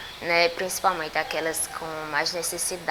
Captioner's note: birds sing